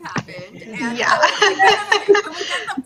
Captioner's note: all laugh